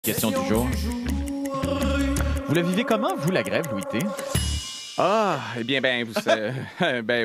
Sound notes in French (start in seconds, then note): 4.1 ding!; 6.2 rire